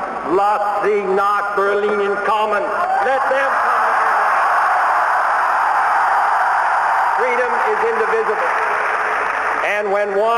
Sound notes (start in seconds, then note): 0.2 speaking german; 5.2 cheering